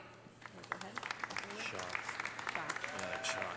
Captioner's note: audience applauding; audience cheering